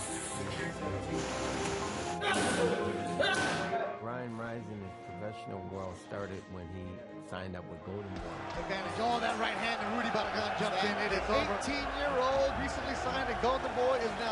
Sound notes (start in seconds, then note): 2.1 grunting; 9.7 cheering, indistinct chatter